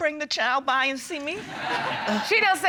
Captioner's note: laughter